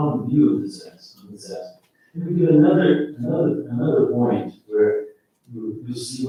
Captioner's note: faintly speaking